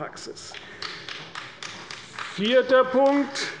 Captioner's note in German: Beifall bei Abgeordneten der CDU